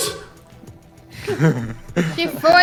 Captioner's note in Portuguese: risadas